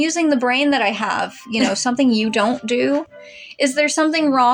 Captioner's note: chuckle